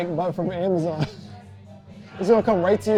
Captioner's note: laughing